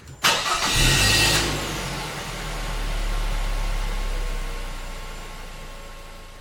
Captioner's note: engine humming; engine revs